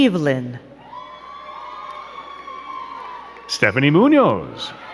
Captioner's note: crowd cheering and clapping